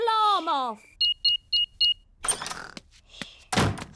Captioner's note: beeping